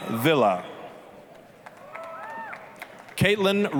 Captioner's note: applause, cheering